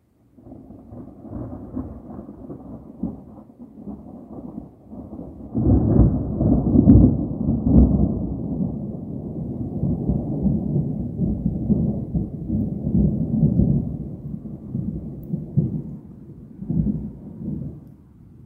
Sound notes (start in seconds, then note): 0.3 deep thunder starts; 5.5 deep thunder rumbles; 18.2 thunder continues quietly